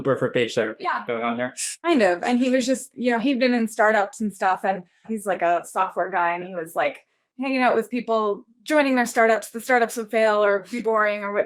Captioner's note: laughs